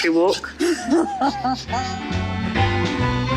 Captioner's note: laughs; upbeat music